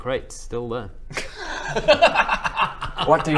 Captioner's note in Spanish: risa anti-climática